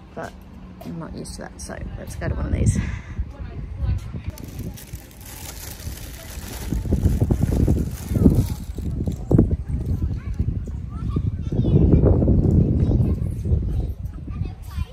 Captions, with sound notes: But I'm not used to that, so let's go to one of these. [plastic packet crinkles and wind blows loudly in the microphone] [children's voices can be heard in the background]